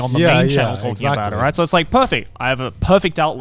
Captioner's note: claps